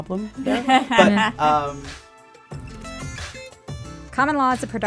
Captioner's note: laughter